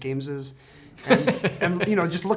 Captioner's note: Brad laughing